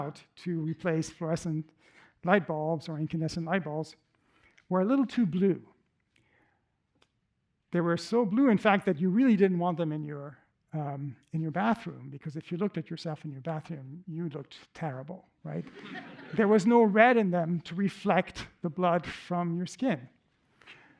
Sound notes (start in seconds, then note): 15.5 laughter